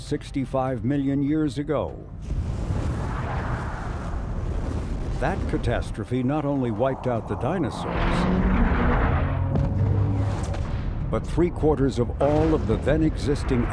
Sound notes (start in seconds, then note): 2.5 asteroid whooshing; 9.0 asteroid crashes